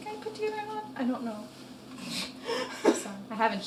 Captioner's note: laughing